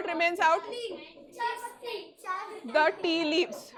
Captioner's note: giggles